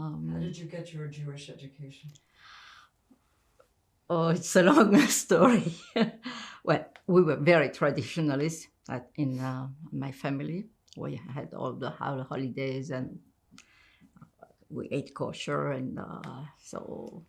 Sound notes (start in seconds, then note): 5.6 laughing